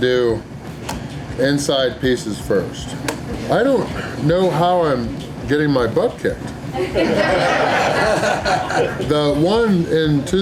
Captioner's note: crowd laughter